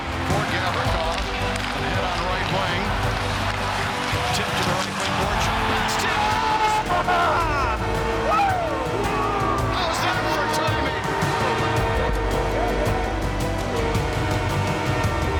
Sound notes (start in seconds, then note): 8.1 crew cheering; 11.1 horn sounds